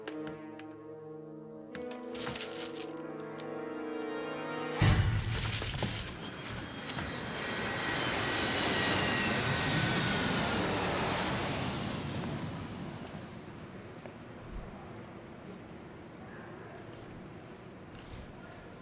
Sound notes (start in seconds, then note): 0.1 suspenseful music; 5.1 dramatic music; 6.3 plane engine roaring; 12.9 group chattering